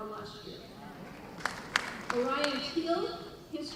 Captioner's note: applause